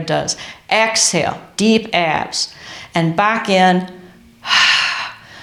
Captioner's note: exhales